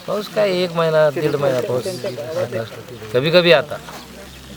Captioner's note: rain